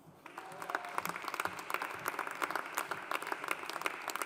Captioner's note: audience applauding